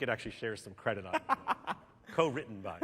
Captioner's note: laughter